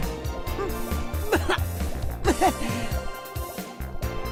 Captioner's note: cough